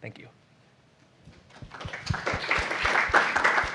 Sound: applause

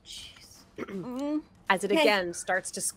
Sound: whispers

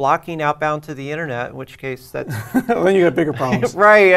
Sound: laugh

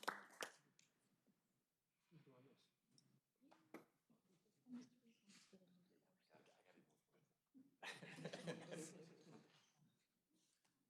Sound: applause

